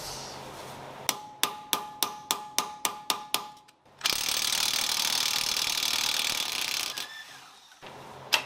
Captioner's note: working sound